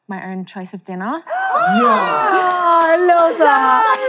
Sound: contestants cheering

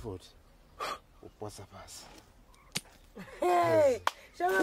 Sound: blowing

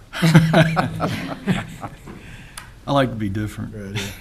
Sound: both laughing

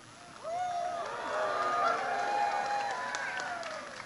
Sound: crowd cheers

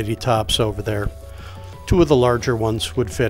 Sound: inhales

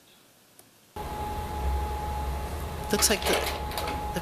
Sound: projector shuffles

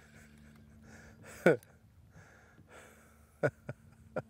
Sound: chuckles

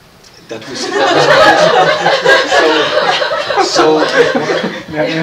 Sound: laughter

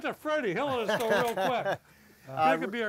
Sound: laughs

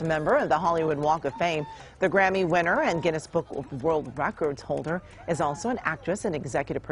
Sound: applause

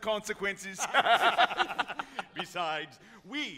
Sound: all laughing

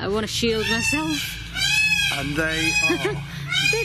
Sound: peacock squawks

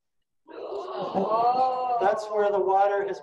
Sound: audience exclaiming

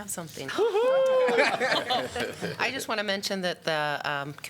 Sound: laughter

